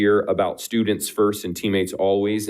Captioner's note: none